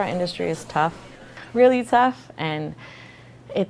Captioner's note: background chatter